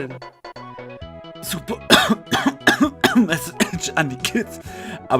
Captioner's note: cough